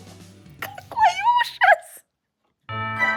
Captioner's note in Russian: смех